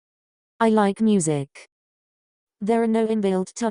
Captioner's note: Weave Chat voice